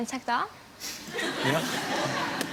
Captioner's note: audience snickers